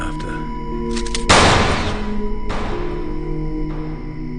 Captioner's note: gun firing